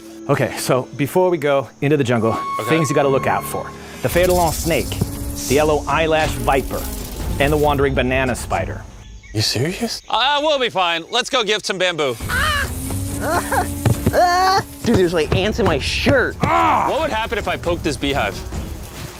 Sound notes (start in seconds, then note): 12.1 whining